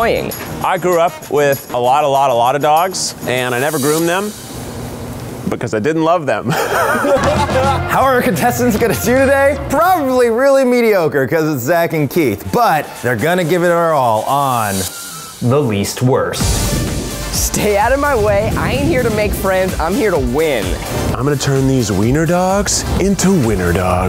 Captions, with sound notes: - I grew up with a lot, a lot, a lot of dogs and I never groomed them. Because I didn't love them. *laughter* - How our contestants gonna do today? Probably really mediocre cuz it's Zach and Keith, but they're gonna give it their all on... The Least Worst! - Stay out of my way. I ain't here to make friends. I'm here to win. - I'm gonna turn these wiener dogs into winner dogs.